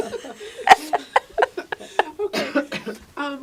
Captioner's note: laughing